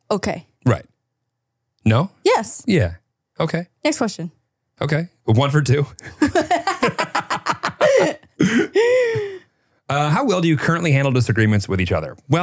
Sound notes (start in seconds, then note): 6.0 both laughing